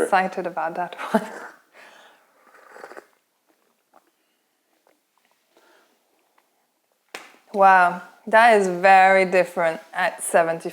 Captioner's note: sips tea